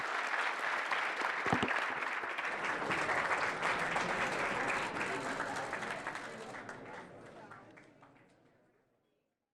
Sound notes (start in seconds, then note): 0.0 audience applauding; 4.3 audience members chattering